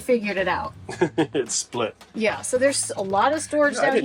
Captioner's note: laughs